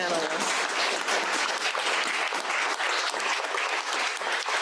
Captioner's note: audience applauding